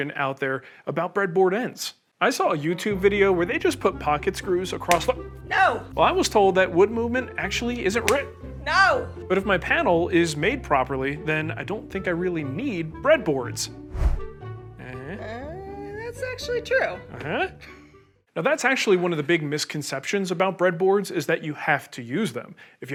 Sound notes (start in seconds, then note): 4.8 slap; 8.0 slap; 13.8 whooshing